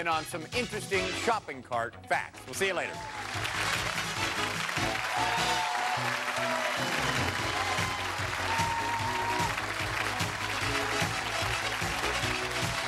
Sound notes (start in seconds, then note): 4.3 cheers and applause